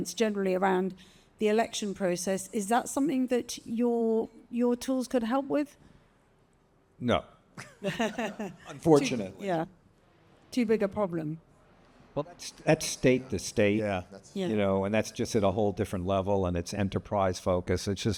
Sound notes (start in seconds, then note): 7.4 laughs